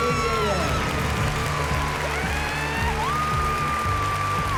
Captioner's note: cheering, applause